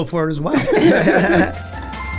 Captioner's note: laughing; lighthearted music